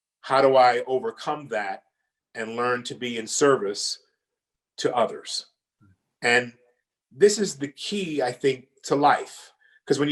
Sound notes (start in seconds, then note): none